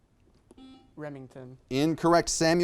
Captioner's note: buzzer beeps